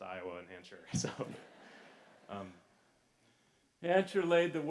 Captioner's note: laughter